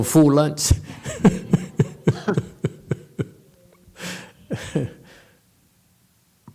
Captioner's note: laughs